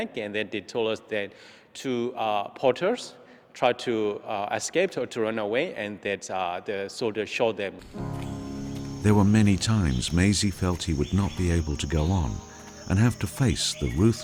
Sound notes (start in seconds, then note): 7.9 slow piano music; 9.0 voiceover